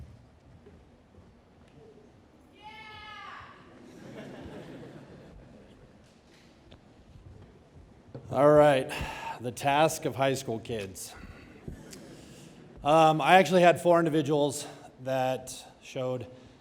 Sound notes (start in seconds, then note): 3.8 audience laughing